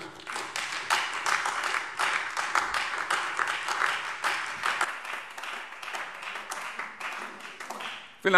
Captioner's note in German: Beifall Freie Demokraten und AfD